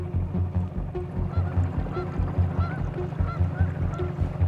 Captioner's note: geese honking